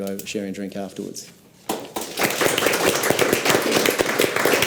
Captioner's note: audience applauds